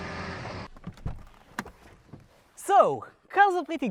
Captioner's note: car engine shuts off, door opens